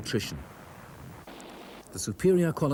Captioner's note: gun rattles